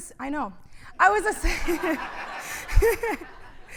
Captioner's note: laughter